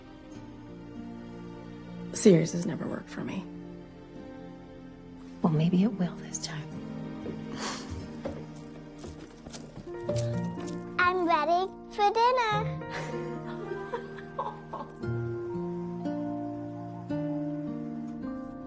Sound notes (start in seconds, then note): 7.0 footsteps down the stairs; 12.9 laughing